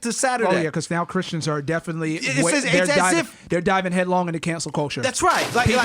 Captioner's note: loud splash